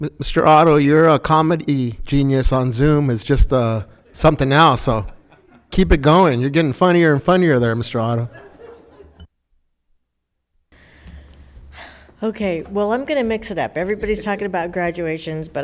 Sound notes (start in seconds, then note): 8.6 audience laughing